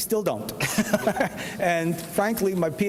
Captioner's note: laughs